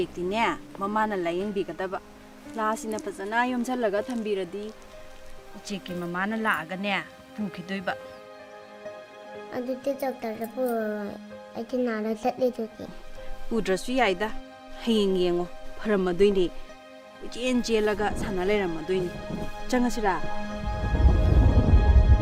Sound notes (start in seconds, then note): 0.1 woman speaking in a foreign language; 9.7 boy speaking in a foreign language; 13.8 woman speaking in a foreign language